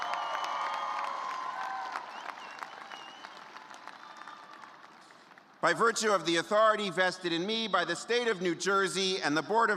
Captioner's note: cheers and applause